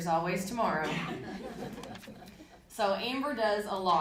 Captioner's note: audience laughing